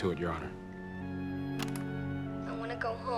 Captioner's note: player clicks